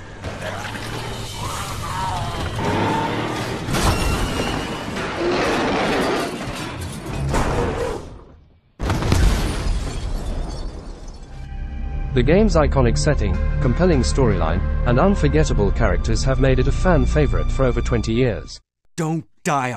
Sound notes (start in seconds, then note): 0.2 wierd zombie noises; 2.4 truck crashes; 8.8 explosion